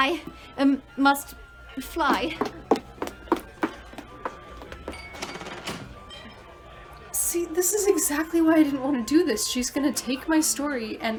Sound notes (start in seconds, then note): 2.1 footsteps receding rapidly, door slams